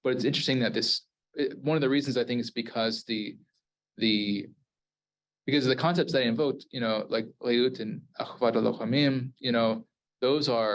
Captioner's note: Hebrew